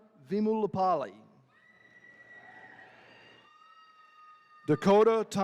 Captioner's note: attendees cheering